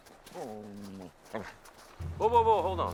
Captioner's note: Buck growls